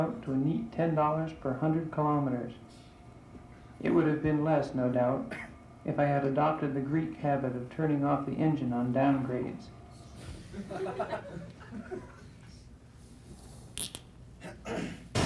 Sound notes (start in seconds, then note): 10.4 laughter